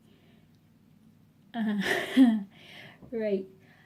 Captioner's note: laughing